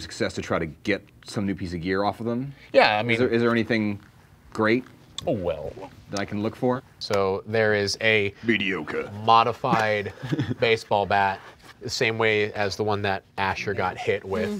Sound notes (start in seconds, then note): 8.6 laughing